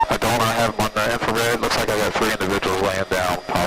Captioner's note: police radio chatter